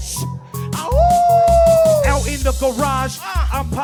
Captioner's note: howling